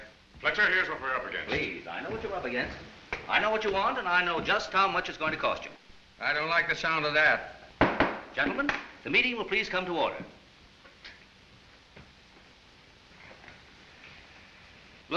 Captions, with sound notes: Fletcher, here's what we're up against. Please, I know what you're up against. I know what you want, and I know just how much it's going to cost you. I don't like the sound of that. Gentlemen, the meeting will please come to order. [SCOFFS]